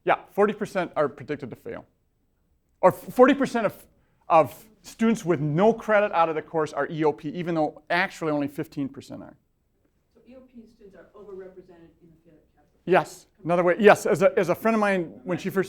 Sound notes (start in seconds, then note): 0.0 voiceover; 10.3 voiceover; 15.5 voiceover